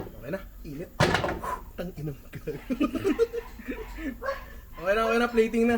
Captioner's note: laughter